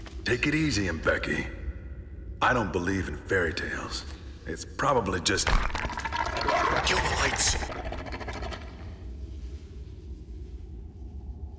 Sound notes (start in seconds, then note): 5.4 rocks crumbling & growling noises